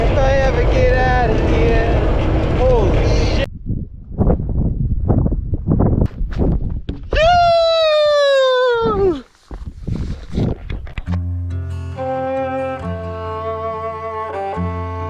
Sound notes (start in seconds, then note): 4.1 wind blowing; 10.7 thoughtful guitar music